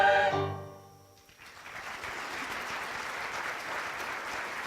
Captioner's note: applause